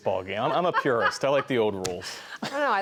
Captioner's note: laughter